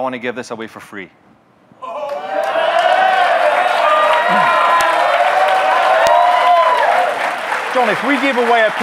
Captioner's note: audience cheering, clapping